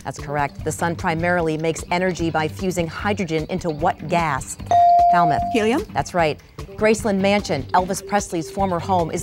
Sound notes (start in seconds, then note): 4.7 dinging